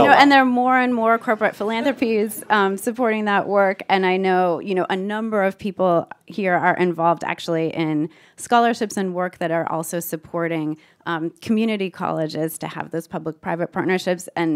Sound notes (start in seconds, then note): none